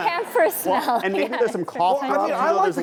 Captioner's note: laughter; laughs